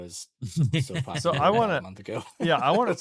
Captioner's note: laughs